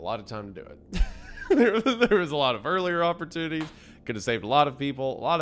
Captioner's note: laughs